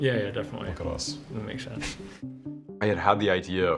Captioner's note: chuckles